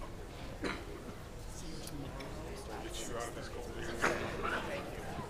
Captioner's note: people chattering